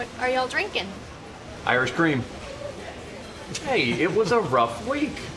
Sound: Jimmy laughs

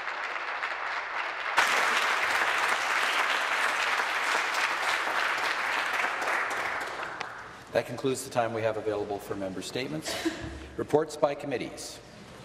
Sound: applause

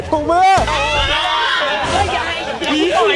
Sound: screams

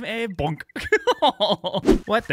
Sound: laughs

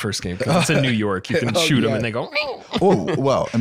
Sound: squeaks

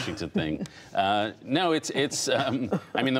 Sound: laughter

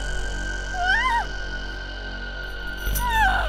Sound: screams

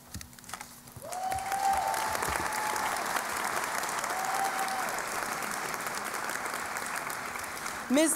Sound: cheering and Applause

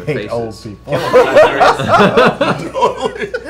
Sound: laughter

